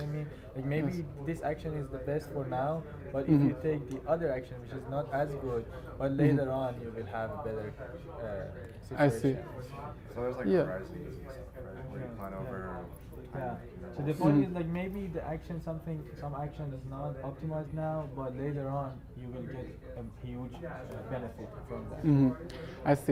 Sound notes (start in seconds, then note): 8.0 faintly speaking; 10.9 student faintly speaking